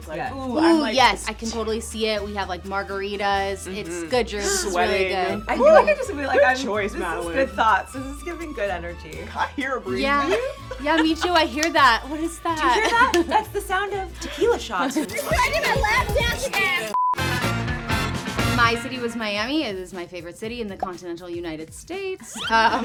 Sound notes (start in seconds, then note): 16.9 screen beeps; 17.9 upbeat music